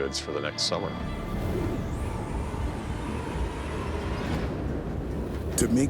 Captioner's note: wind howling